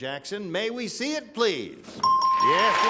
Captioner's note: ding; applause